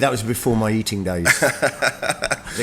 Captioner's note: laughs